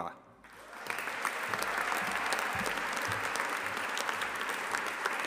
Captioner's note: audience applauding